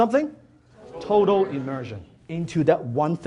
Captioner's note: audience Member In Unison With speaker